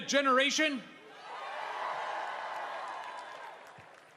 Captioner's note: crowd screaming and cheering